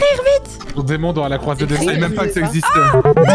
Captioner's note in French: marmonne; jingle de fin de round